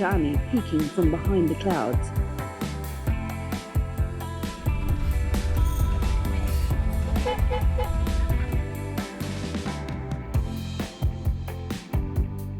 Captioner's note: horns honking